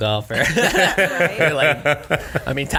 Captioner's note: laughing